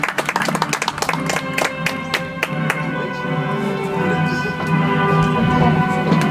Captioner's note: audience applauds; soft music